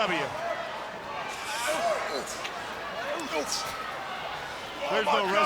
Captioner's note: crowd yelling